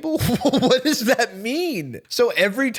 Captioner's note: laughing